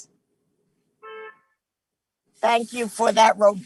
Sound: car hoots

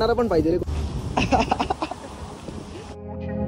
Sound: laughs

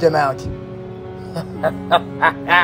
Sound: Captain Miller laughs

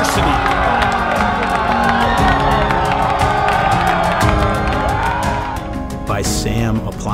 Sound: applause

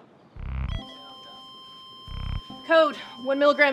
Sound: flatline tone

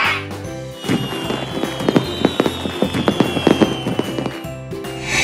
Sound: airy whoosh; fireworks exploding; airy whoosh

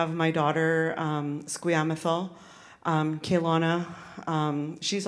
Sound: speaks in Sk1wx1wu7mesh

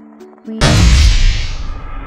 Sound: slap

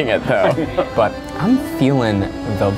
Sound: laughs

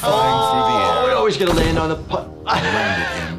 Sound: laughing

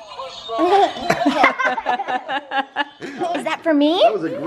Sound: laughing

